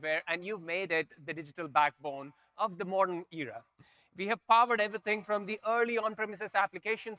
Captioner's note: none